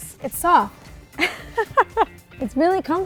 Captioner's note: laughs